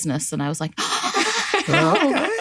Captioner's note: gasp